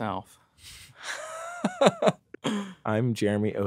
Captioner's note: laughter